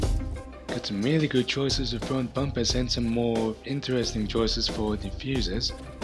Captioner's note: Australian accent intensifies